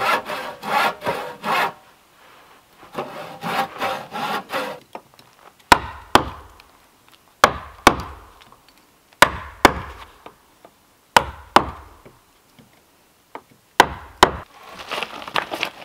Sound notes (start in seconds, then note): 0.0 saw grating; 5.7 pounding